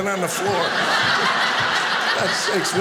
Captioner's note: audience laughing